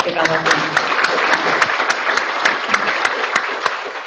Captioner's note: audience applauding